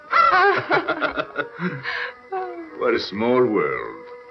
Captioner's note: laughing